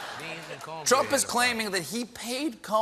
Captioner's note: laughter